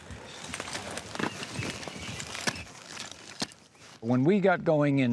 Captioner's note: birds chirping